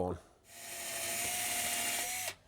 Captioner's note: whirring